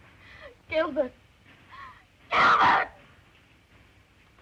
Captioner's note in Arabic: يئن